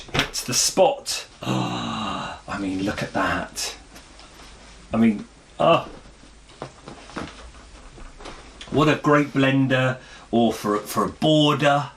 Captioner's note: gasp